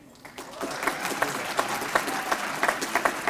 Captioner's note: applause